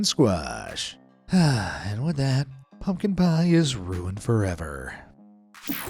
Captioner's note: sighs